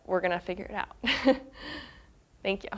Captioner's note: chuckling